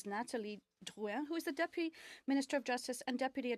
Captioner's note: speaking French